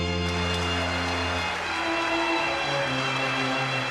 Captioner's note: audience clapping